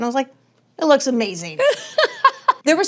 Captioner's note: laughs